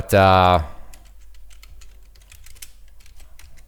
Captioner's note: typing